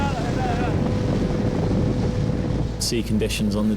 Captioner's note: boat engine roars